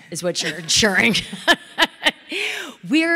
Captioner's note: audience laughing